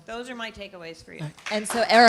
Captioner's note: applause